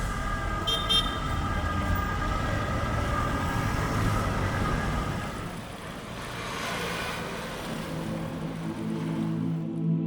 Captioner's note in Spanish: Sonido de tráfico